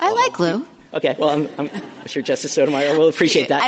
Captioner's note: laughter